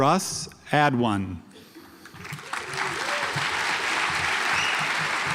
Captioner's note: audience applauds